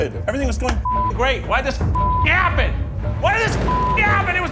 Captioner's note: beep